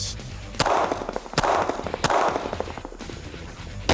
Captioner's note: gun shots